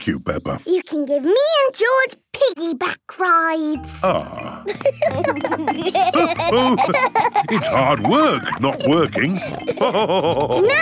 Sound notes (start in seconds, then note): 4.0 giggling; 9.8 laughing